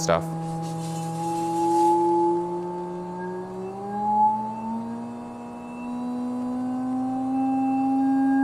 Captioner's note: vibrating sound